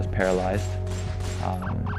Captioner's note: gun firing